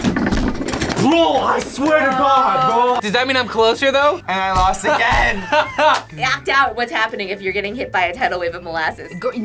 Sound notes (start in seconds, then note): 4.8 laughs